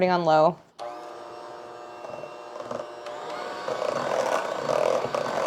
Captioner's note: mechanical whirling